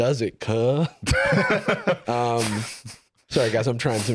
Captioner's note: laugh